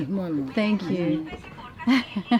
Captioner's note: laughing